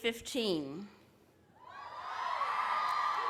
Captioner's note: applause